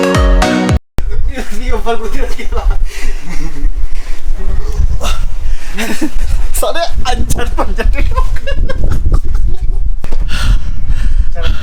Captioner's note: laughs